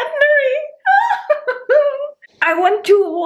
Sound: chuckling

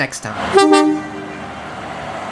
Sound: toot toot

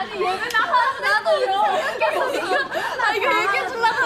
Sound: starts laughing out loud

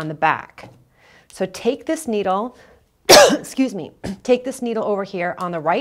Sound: coughs

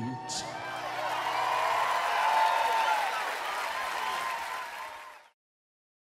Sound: cheering

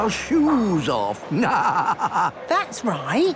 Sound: laughing

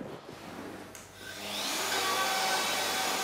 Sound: machine drone

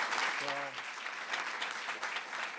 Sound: applause

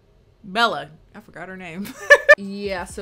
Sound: laughs

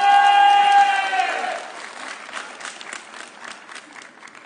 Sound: audience cheering

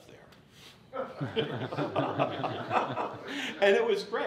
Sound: audience laughs

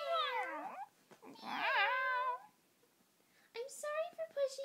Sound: meowing; weird meowing

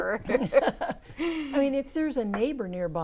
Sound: laughing

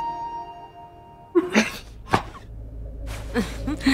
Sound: chuckles

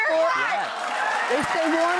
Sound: audience cheers

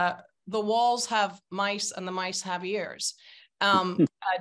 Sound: speaking Persian

